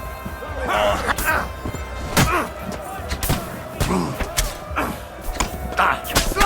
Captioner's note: fighters grunting; blows thudding